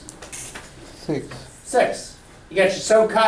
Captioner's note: voiceover